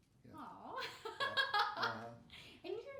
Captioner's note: laughing